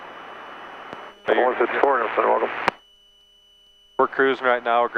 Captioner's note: man mumbles over radio